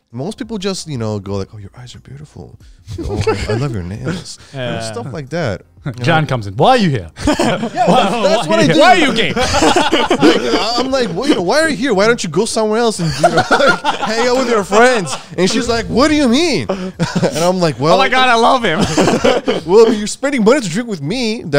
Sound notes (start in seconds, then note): 7.2 laughing; 7.5 group chattering